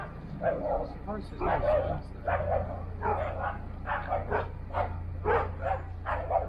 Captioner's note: dog's Barking - See the bench and dog walker